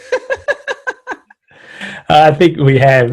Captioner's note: laughs